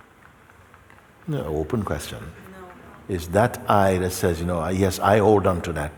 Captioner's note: voices in audience